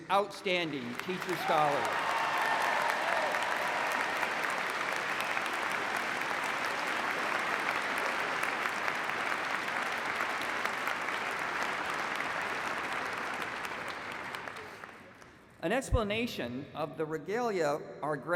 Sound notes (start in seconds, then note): 4.0 applause